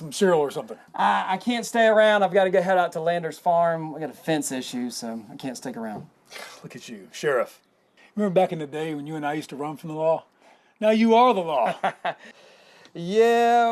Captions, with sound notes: -Got some cereal or something. -Uh, I can't stay around. I've got to go head out to Landers' Farm. We've got a fence issue so I can't stick around. [scoffs] Look at you, Sheriff. Remember back in the day when you and I used to run from the law? -Now you are the law. -[laughs] Yeah.